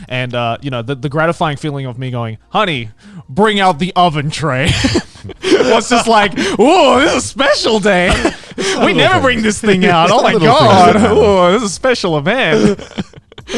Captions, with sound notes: And the gratifying feeling of me going, "Honey, bring out the oven tray." (Group laughs) was just like, Aw! This is special day. We never bring this thing out oh my God! Aw! This is a special event.